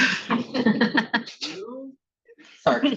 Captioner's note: attendees laughing